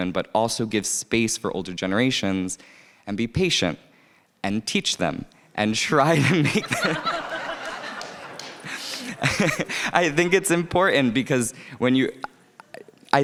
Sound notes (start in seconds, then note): 6.1 people laughing